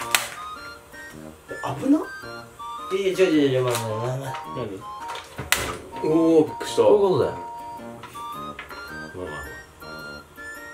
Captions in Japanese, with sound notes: （パチっ） え、危な！ いやいや違う違う違う 待て待て待て なに？ （バチっ）（火がついた音） おぉ〜 びっくりした こういうことだよ 笑 まあまあまあ